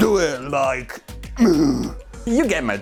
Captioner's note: groan